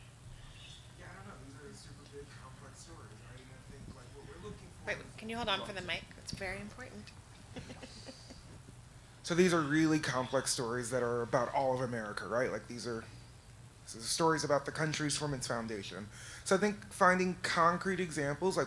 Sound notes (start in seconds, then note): 7.4 laughs